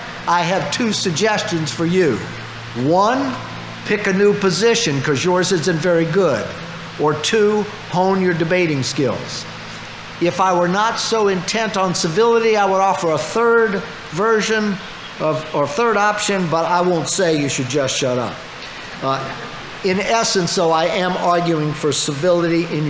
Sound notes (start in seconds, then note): 18.7 audience laughing